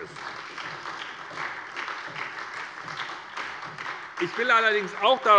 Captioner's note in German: Beifall bei der SPD